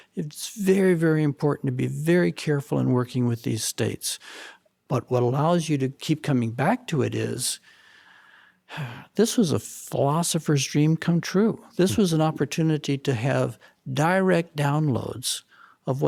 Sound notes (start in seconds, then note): 7.6 inhales loudly; 8.4 exhales loudly